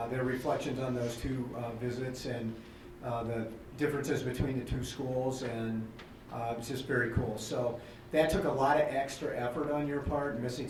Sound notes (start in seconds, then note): none